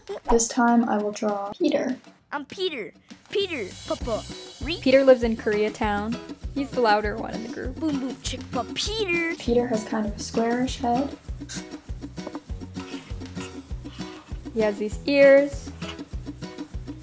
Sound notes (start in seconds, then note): 0.0 giggling; 11.4 marker scratching; 11.4 upbeat playful music